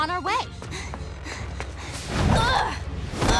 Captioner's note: panting; grunting